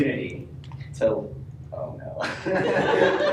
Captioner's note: laughter